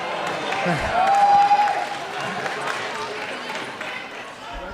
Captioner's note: applause